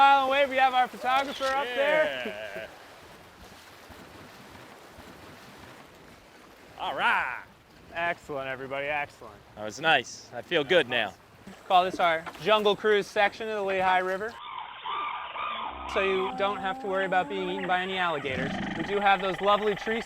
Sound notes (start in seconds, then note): 14.2 bird calls